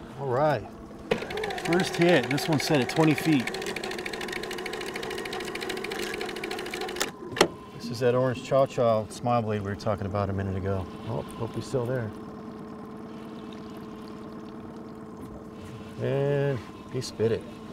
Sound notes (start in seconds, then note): 4.7 winch motor running